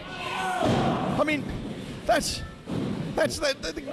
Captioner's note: loud thump